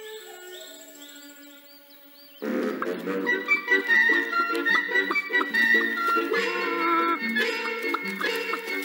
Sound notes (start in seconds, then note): 3.8 clucking